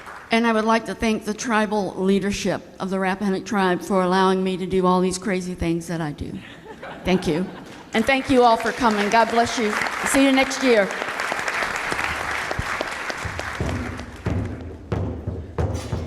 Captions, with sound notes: and I would like to thank the tribal leadership of the Rappahannock Tribe for allowing me to do all these crazy things that I do. Thank you. And thank you all for coming. God bless you. See you next year. (clapping) (drumming)